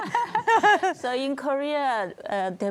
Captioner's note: laughter